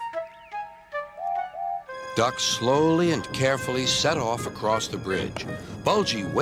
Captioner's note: Duck blows his whistle